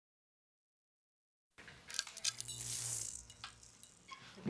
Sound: light clicks, buzzes

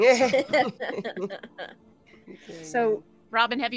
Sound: all laughs

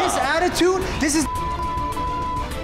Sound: beeping

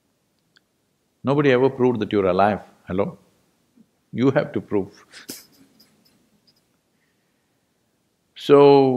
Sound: laughs

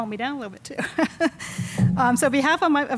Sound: chuckles

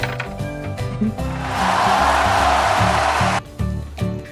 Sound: applause~!

